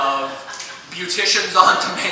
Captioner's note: applause